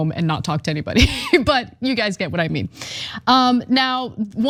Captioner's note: laugh